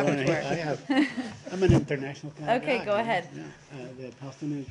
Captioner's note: laughter